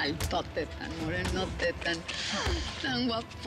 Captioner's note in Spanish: none